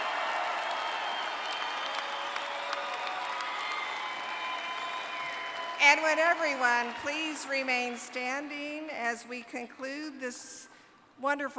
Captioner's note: applause